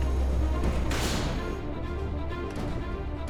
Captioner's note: door thuds; tense dramatic music